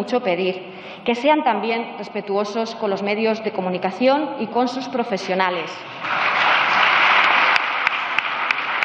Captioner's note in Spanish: aplausos